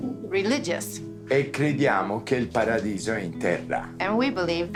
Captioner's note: Dario speaking Italian